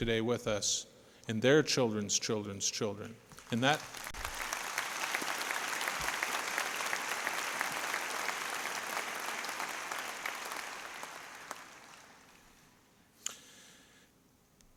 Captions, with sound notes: US. IT'S FOR THE FUTURE GENERATIONS OF THOSE KIDS WHO ARE HERE TODAY WITH US AND THEIR CHILDREN'S CHILDREN'S CHILDREN. [APPLAUSE] >>